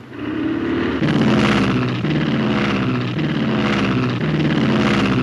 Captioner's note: engine roaring